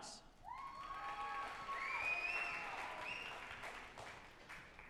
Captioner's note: group applauding and cheering